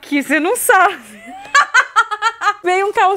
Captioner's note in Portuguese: risos